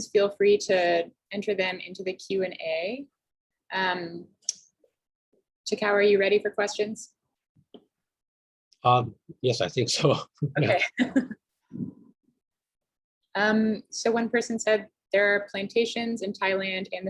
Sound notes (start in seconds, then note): 10.1 chuckles